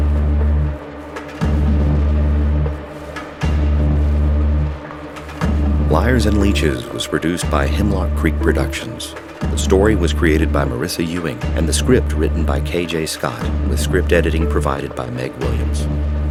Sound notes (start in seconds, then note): none